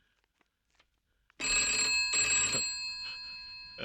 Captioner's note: telephone Ringing